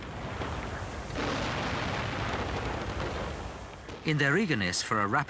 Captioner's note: guns firing